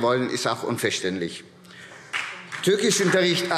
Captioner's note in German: Beifall SPD